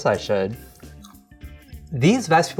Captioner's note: crunching